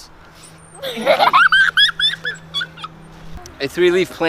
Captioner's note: intense giggling